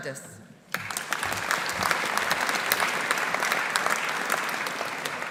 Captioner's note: audience applauding